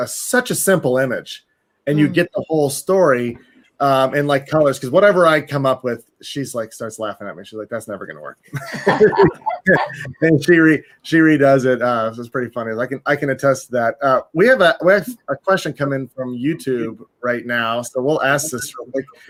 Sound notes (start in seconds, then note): 8.6 laughing